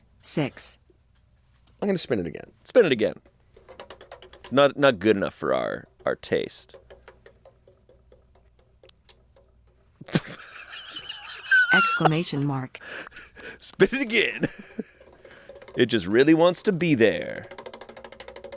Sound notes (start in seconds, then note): 10.0 laughing